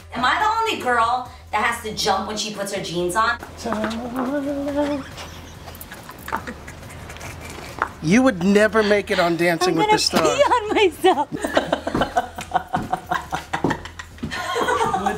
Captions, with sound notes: - Am I the only girl that has to jump when she puts her jeans on? - Ta-da. (laughing) - You would never make it on Dancing with the Stars. - I'm going to pee on myself. (hysterical laughter)